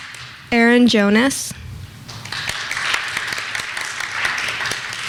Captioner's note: clapping; clapping